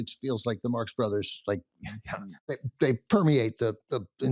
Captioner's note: chuckles